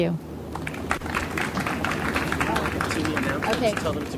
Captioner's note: audience applauds